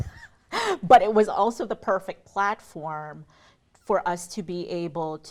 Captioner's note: chuckling